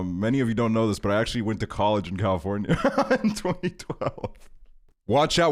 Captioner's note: laughs